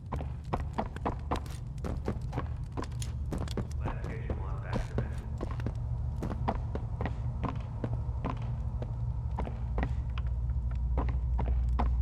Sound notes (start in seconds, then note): 4.7 footsteps